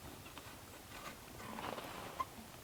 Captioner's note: none